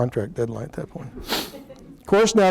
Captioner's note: laughter